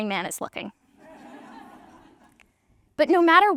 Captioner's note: audience laughter